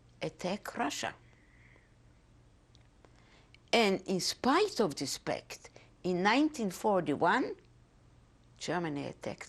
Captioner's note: pauses for 3 seconds